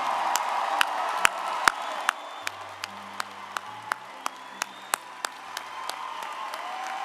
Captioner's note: audience cheering and applauding